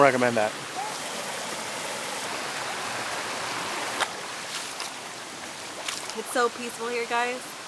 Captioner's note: waterfall